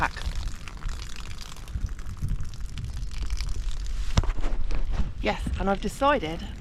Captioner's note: water dribbling off tent